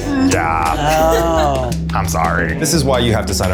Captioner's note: in puppet voice